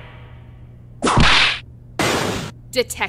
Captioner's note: whip crack!